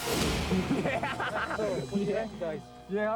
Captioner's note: edgy dramatic music; laughing